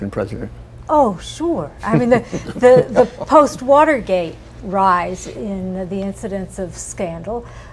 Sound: laughter

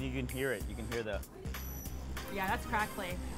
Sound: crackling

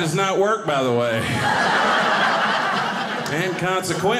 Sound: audience laughing

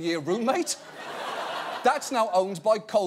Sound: audience laughing

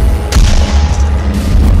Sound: whoosh; bang; whoosh

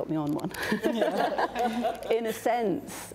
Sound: both laughing

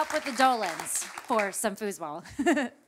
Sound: chuckles

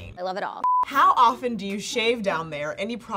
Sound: beep

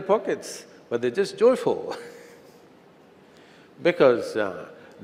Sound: laughs

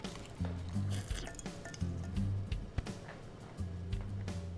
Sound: slurping

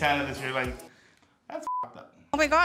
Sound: beep

